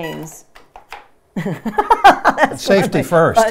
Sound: laughing

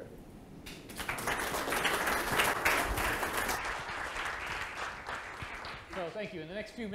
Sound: applause

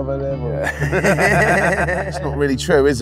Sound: men laughing

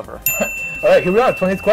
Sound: bell rings

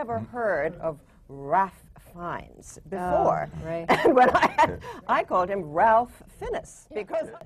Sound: laughs

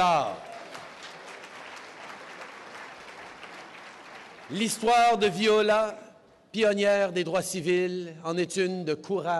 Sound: applause

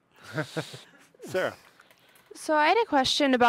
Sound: audience chuckles

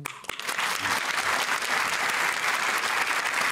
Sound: applause

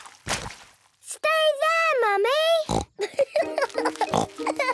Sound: laughing

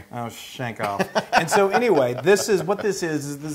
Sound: laugh

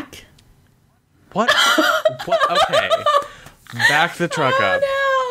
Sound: laughing

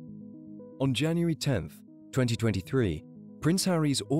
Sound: voiceover

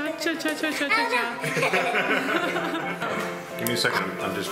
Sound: laughing

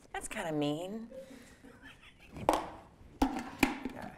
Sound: laughing

